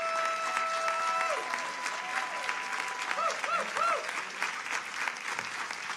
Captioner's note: audience applauding